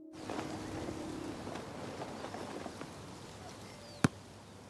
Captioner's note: the sound of the wind fluttering the fabric; the sound of a ball hitting